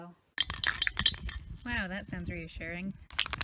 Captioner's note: metal balls rattle against can; metal balls can be heard going through thick fluid